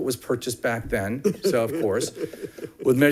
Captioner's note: man chuckling